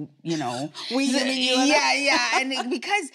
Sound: laughs

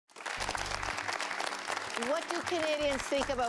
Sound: applause

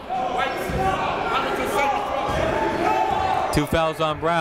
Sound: crowd talking; coaches yelling

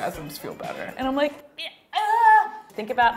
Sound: groans

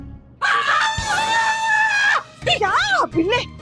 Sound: screaming

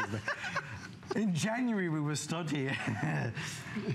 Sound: laughter; laughter

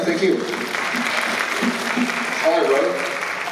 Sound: applause

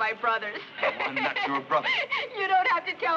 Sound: Gwyneth laughs

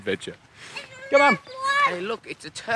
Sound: shouting

